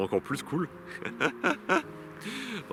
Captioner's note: laughs